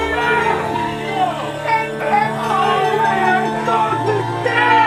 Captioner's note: Zin shouting